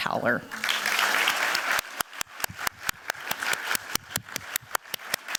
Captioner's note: applause